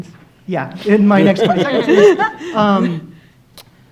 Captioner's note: laughing